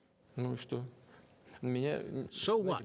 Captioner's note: speaking Russian